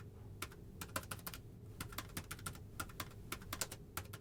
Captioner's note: typing